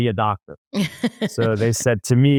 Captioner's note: laughs